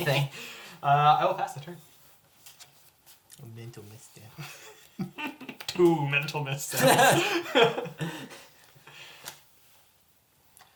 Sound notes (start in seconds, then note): 0.8 snickers; 4.2 mocking